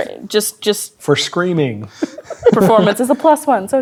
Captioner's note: laughs